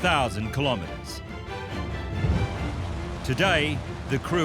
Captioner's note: uplifting music; rain and thunder